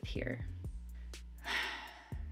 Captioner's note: heavy sigh